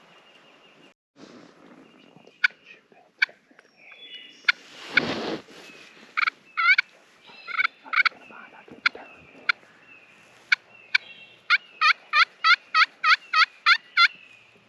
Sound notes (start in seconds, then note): 3.4 turkey call